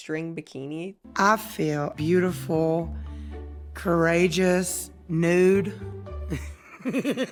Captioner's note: laughs